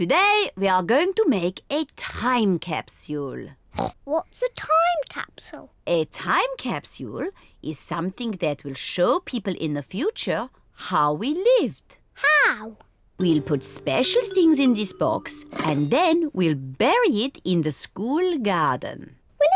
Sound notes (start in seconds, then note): 3.7 oinks